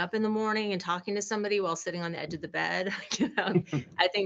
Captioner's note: chuckling